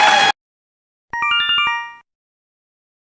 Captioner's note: Yume Nikki Instructions sound effect